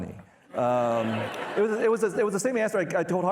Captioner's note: participants laughing